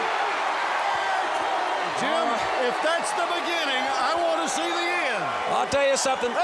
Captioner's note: crowd cheering